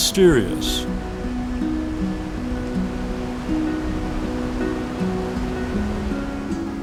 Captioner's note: gentle music continues; water rushing